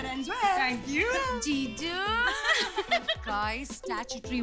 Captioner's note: Vandy and Cherry laughing